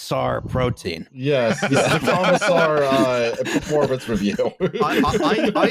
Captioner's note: laughter; all laughing, speaking